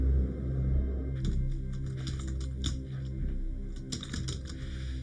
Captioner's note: keys clacking